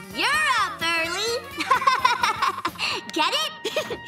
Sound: laughing

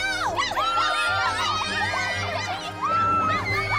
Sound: cheering

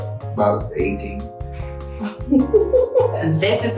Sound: laughs

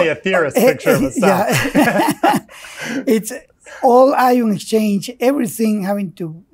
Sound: laughs

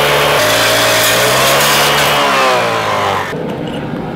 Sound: metal screaming; fire roaring

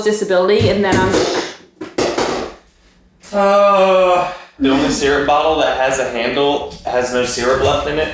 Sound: crash

